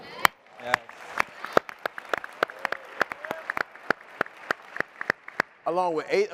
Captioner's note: applause and cheering